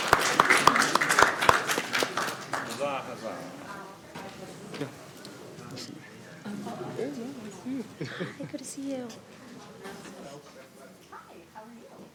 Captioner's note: applause